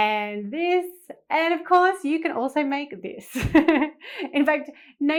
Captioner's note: chuckling